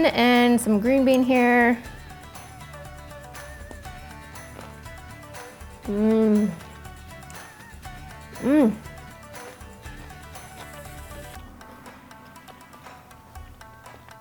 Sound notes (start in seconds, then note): 2.0 groans; 2.0 upbeat music